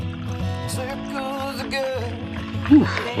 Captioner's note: liquid pouring